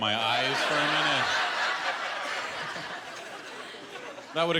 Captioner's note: laughter